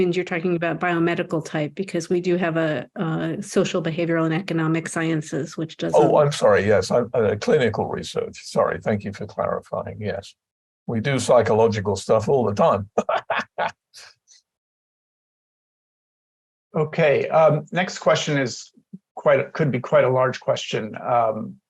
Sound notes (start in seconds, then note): 16.3 laughter